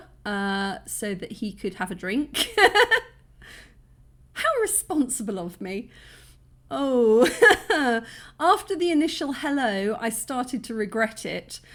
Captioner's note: laughing